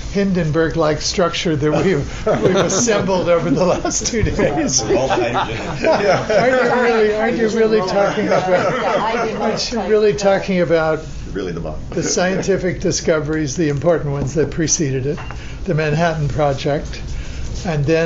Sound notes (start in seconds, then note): 6.7 laughing